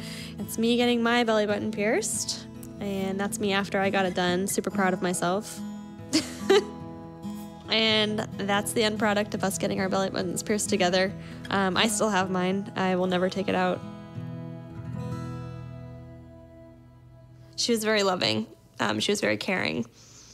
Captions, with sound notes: That's me getting my belly button pierced, and that's me after I got it done, super proud of myself. (chuckles) And that's the end product of us getting our belly buttons pierced together. I still have mine, I will never take it out. She was very loving, she was very caring,